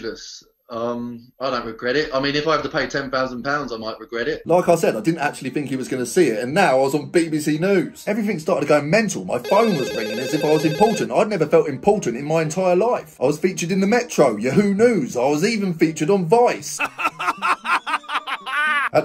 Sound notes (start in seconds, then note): 9.4 phone rings; 16.8 person laughs